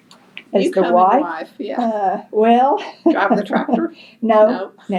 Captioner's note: laughs